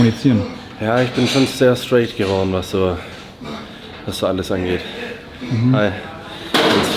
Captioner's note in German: räuspern